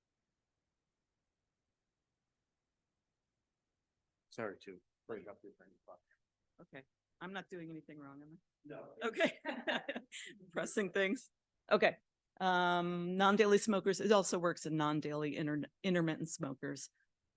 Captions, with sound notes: Sorry to break up. Okay. I'm not doing anything wrong, am I? -No. -Okay (laughing) Pressing things. Okay. Non-daily smokers, it also works in non-daily, intermittent smokers.